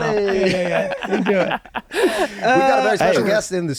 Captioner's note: laughing